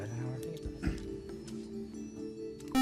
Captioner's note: buzzer